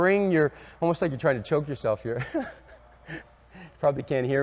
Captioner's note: laughs